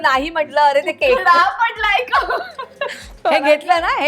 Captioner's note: chuckles